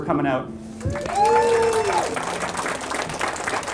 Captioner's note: cheering